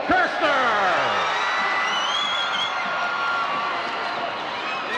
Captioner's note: crowd cheering